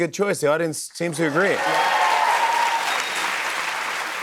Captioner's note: cheers and applause